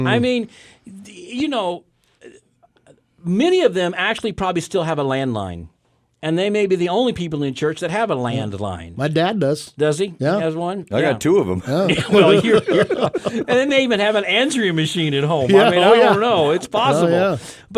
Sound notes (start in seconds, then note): 11.8 hosts laughing